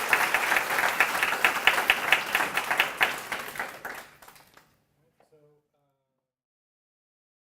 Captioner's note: applause